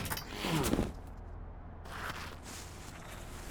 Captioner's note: groaning